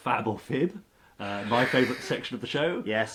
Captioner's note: laughs